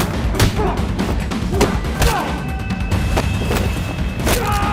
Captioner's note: punches landing; bones cracking